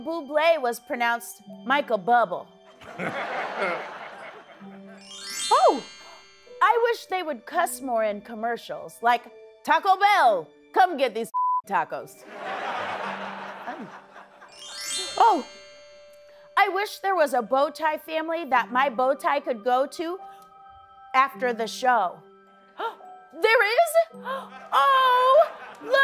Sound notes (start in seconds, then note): 3.1 chimes; 12.3 laughter; 13.9 chimes